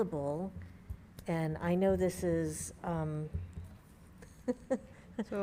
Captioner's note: laughs